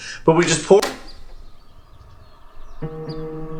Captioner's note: screen shuts